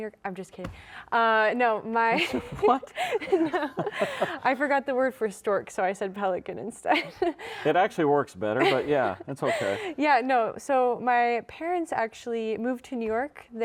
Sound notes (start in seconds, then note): 2.1 giggling; 2.2 chuckling